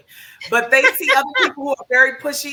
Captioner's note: laughs